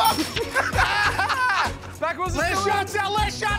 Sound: laughter

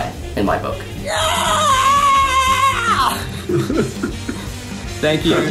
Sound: group laughing

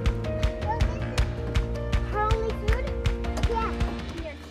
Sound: lighthearted guitar music; kids faintly speaking

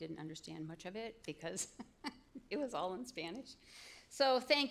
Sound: chuckle

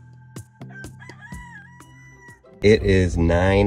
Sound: gentle upbeat music; rooster crowing

